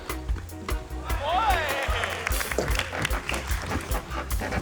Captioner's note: applause